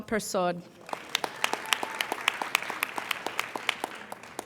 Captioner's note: applauding